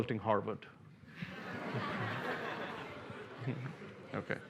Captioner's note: laughter